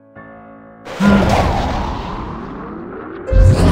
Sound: wind Blowing, Sighing

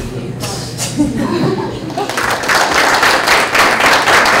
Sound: applauding

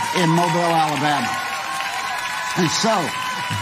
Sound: audience clapping and cheering

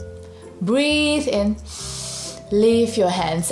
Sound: breathes in deeply

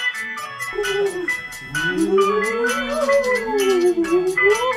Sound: Floating Simerheads moan and wail

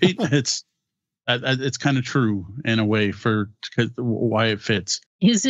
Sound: laughing

